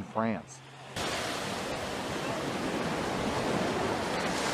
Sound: water splashing

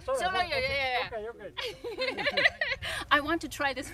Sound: speaks in Spanish; laughs

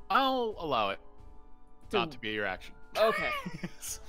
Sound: laughs

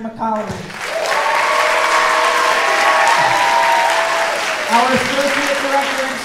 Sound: audience cheering

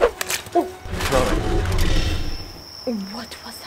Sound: animalistic growling

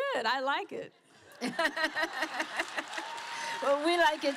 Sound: laughter

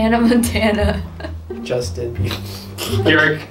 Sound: laughs

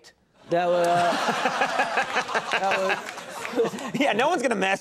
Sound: Conan and audience laughing

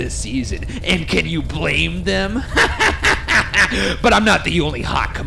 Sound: laughing

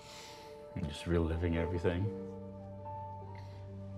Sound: sniffles

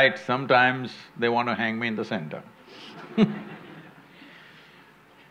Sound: laughter

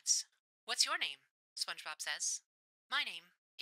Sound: radio Filter

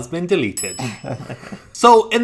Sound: bell dinging; laughing

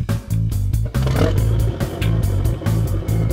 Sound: engine starts

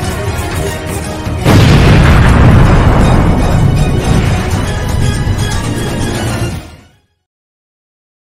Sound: explosion

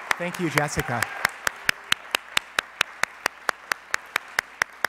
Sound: audience applauds

